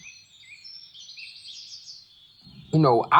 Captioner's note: birds chirping